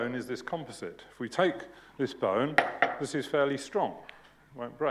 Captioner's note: knocking